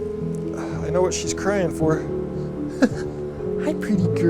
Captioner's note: chuckles